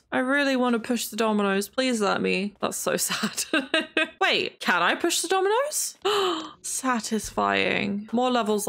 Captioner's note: laughs; gasps